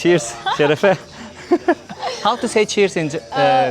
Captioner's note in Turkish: kahkaha